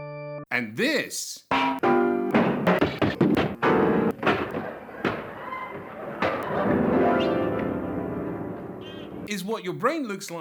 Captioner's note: clacking, banging, discordant piano, crashing, duck call